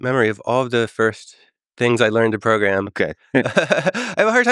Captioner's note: laughs